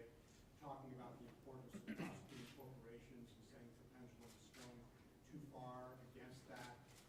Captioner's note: clears throat